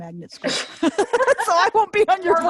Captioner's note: laughing